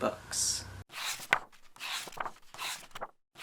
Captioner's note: pages turning